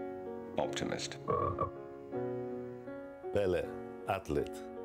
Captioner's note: frog croak